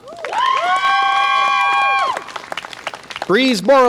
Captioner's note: audience applause and cheer